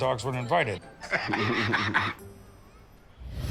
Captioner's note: laughter